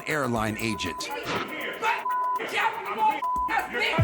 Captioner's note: angry shouting